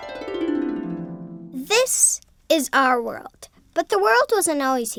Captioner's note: harp music; voiceover